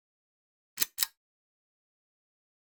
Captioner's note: click